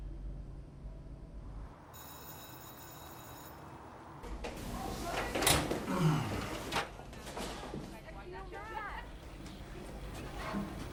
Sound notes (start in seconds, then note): 1.9 bell rings; 7.7 students chattering